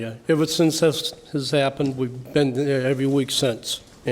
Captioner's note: none